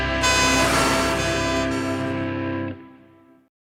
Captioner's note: siren Wail